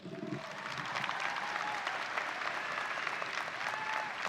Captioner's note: audience applauding